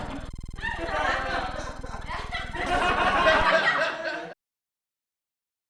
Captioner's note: crowd laughing